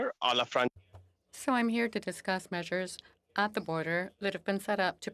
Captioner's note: speaking French